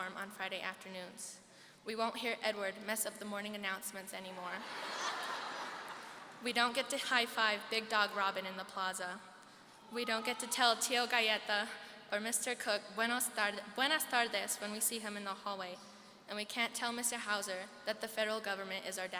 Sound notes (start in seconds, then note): 4.6 seniors laughing; 13.3 speaking foreign language